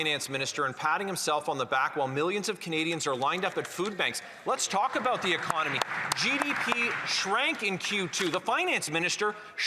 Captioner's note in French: voix de l'interprète